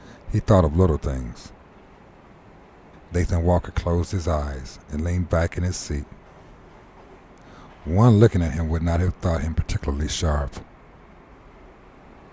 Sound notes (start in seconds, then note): none